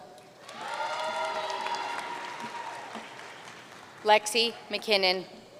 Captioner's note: audience cheering and applauding